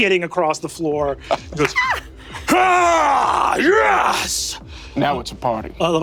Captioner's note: screams boldly